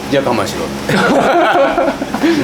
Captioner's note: laughs